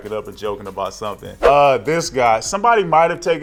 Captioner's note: air whooshing